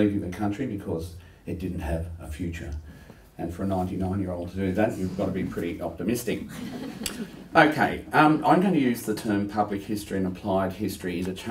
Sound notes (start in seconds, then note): 6.4 laughter